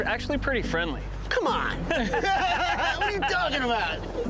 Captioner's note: laughter